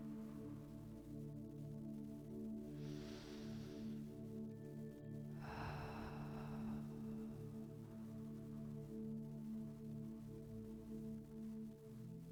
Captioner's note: breathes